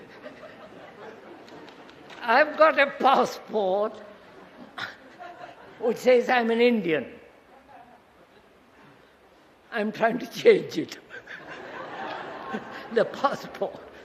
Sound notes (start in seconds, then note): 9.6 laughs